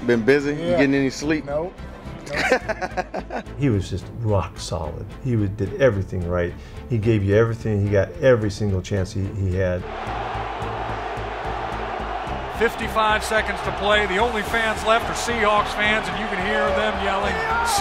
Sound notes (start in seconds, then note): 2.2 person laughs; 9.8 people cheering